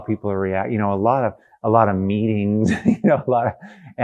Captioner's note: laughs